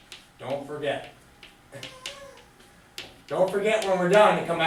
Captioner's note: laughs